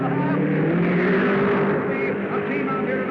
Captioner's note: cars revving